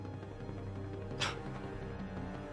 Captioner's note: scoff